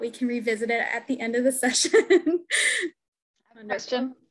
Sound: laughs

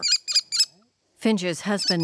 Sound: bird squawking

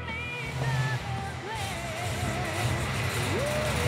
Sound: engine rumbles

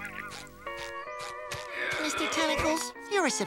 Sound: wheezing

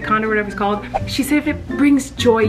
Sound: whooshing

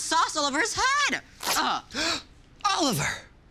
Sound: gasps

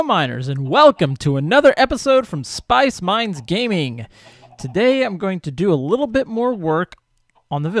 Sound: chickens clucking

